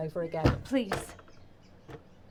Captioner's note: door thuds